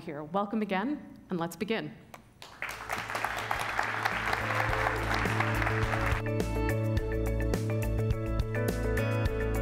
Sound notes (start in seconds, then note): 2.4 applause; 3.6 upbeat fun music